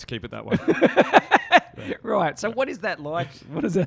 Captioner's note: laughs